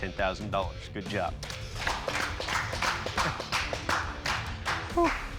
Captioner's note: applause